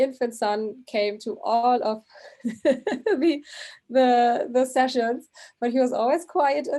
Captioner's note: giggling